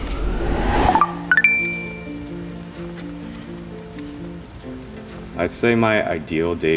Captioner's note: soft guitar music; chime